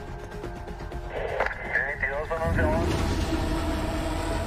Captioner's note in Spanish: Voz en el radio